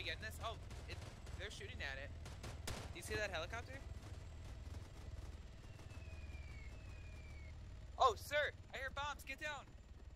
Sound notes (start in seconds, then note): 5.4 bombs Whistling